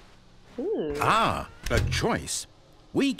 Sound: door closes

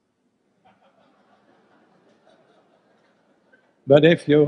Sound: group laughs

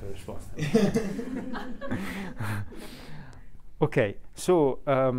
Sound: group laughing

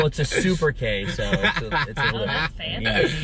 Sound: laughing

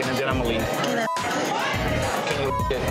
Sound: beeps

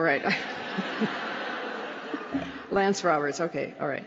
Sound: laughter

